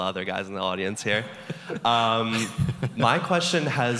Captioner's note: laughs